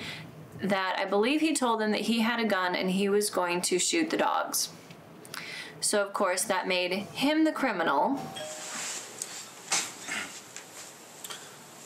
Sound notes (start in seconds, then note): 8.2 doorbell rings